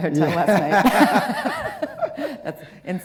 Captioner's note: laugh